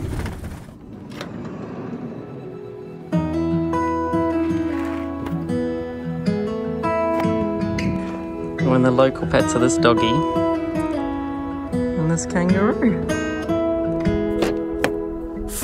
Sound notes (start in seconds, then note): 0.0 door sliding; 2.6 calm acoustic music; 13.7 calm acoustic music continues